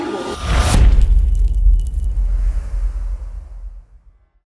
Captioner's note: impact